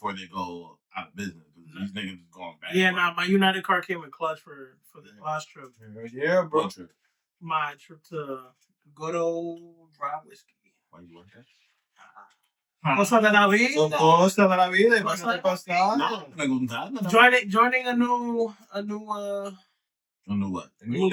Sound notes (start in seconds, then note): 13.4 speaking In Foreign Language